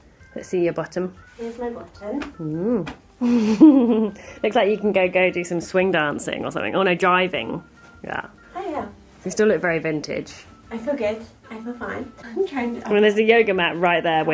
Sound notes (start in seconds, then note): 3.2 laughs